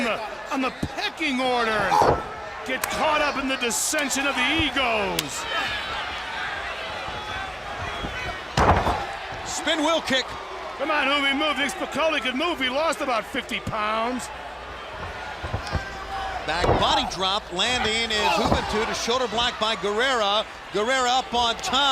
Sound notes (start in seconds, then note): 4.6 crowd chatter; 14.6 crowd chatter; 21.7 crowd cheering